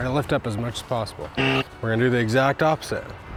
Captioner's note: x honks